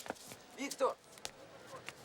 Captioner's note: speaking russian